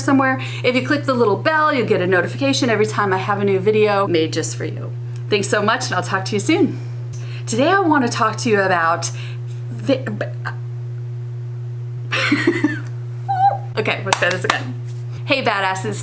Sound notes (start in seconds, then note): 12.1 laughing